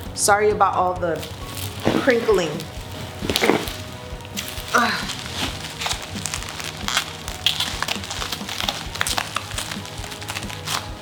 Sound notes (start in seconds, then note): 4.4 sighs; 6.2 bubble wrap crinkling